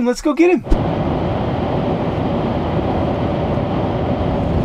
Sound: road noise

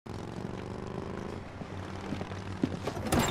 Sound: motorcylce engine rumbles

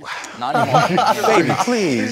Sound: group laughing

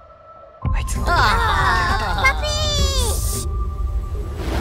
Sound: speaks Japanese

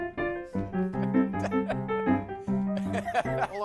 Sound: laughs

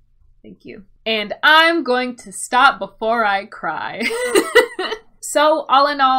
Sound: laughs

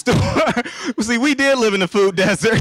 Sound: laughing

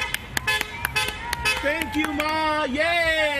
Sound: applause

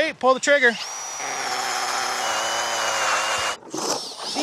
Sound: auger drilling

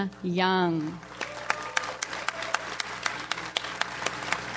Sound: audience applauds

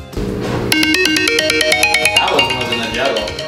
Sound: timer rings

